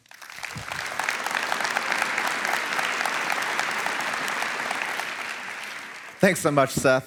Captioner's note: applause